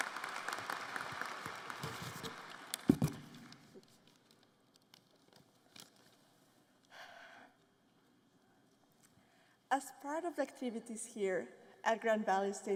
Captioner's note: applause